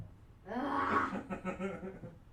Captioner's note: laughter